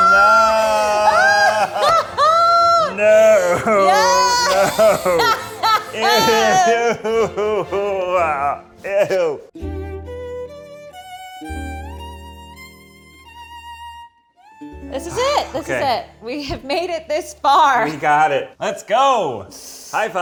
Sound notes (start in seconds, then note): 1.3 laughs; 9.7 violin music